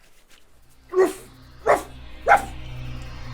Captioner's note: barking